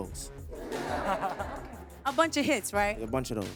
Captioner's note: audience laughs